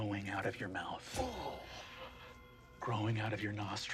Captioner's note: groans